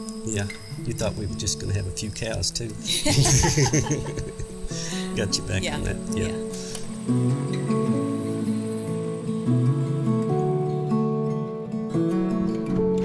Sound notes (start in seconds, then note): 2.8 laughing; 9.7 soft acoustic music